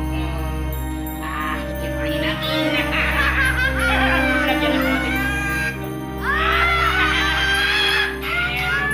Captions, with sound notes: -Let's mix it! -[laughing] Put a little, just a little.